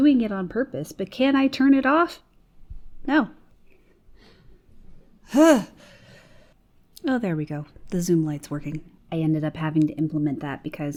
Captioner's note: sighs